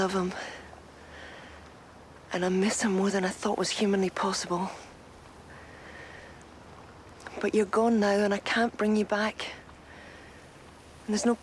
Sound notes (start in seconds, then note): none